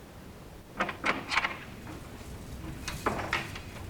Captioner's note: door opens